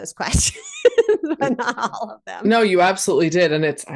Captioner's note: laughs